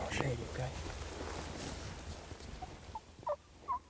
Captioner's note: bird caller chirping